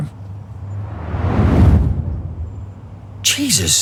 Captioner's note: whoosh